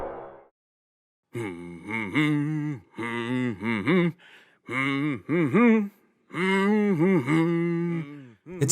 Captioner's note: Goron humming